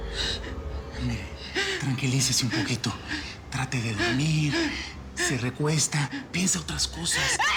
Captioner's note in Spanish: sollozos